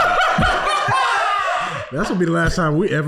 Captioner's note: laughing